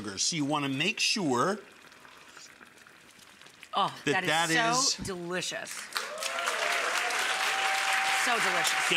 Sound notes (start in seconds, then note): 1.3 slurping; 5.9 audience cheering; 7.2 audience clapping